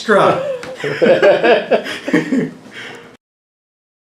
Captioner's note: laughing